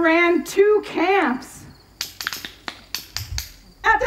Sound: clickity-clack

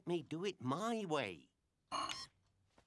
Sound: beeps

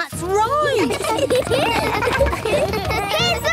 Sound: laughter

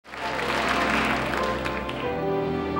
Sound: audience applauds; gentle music

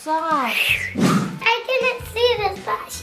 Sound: whooshing

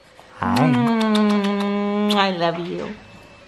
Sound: loud smooching

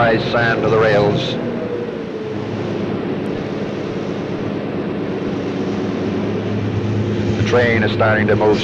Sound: sound of the train moving

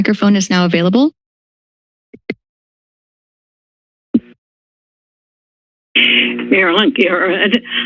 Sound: silence

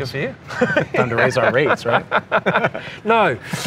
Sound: both laugh

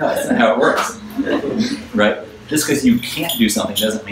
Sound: audience laughs

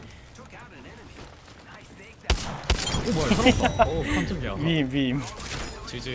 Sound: laughs

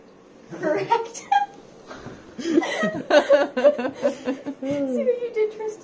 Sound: laughter

